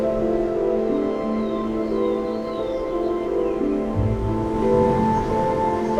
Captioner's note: birds chirping